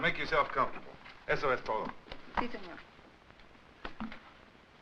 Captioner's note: speaks Spanish